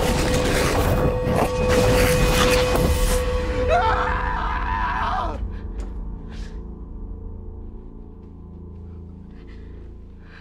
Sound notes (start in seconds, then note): 3.6 screaming